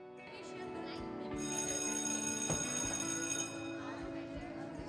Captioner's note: school bells rings